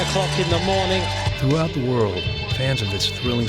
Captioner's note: voiceover